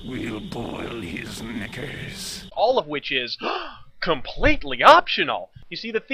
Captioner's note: gasp